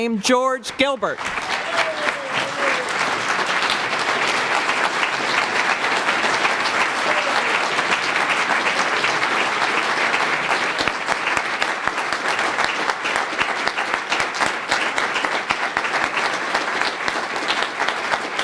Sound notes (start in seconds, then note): 1.4 applause